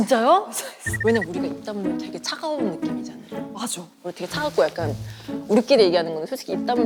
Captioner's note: whispering